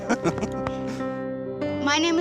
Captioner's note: laughing